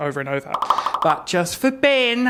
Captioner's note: popping sound